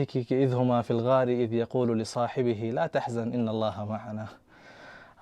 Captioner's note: Arabic